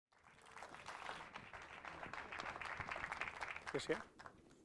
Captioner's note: crowd clapping